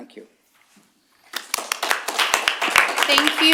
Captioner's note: applause